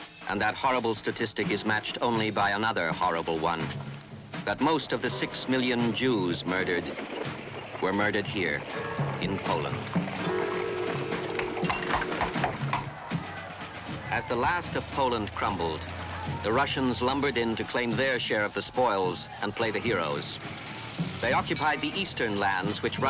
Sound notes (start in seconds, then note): 10.1 horse hooves clopping